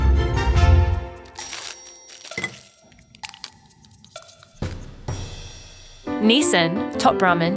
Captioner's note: packaging crinkling; clock ticking